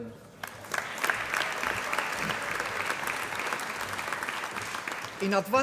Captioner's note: applause